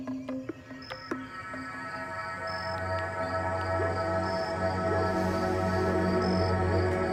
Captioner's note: bugs chirping; light dramatic music